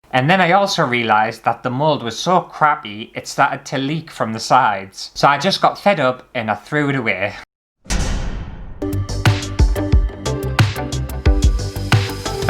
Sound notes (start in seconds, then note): 7.8 thud; 7.9 intro Music